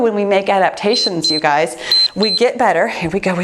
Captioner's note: timer beeps